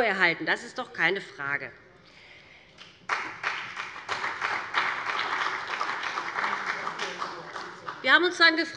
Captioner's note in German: Beifall bei dem BÜNDNIS 90/DIE GRÜNEN und der CDU